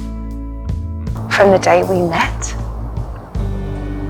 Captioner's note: voiceover